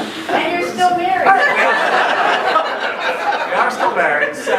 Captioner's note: laughing